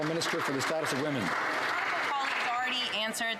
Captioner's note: some Applause